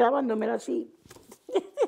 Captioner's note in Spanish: Ríe